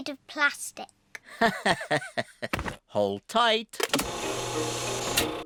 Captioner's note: laughs